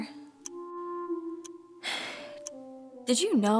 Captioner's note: exhale